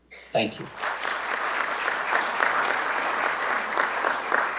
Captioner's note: audience clapping